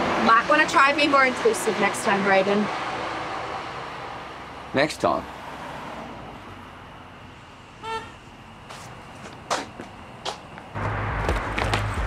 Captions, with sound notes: - Might want to try being more inclusive next time, Brayden. - Next time? (horn honks)